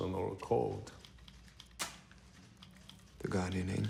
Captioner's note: match strikes